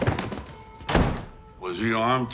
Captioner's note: door slams